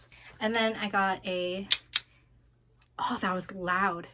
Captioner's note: clip clip